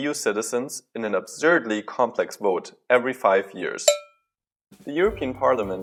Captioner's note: ding